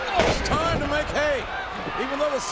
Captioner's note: body thuds